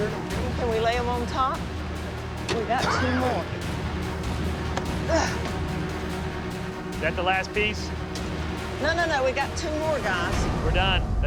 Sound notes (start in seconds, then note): 2.7 coughs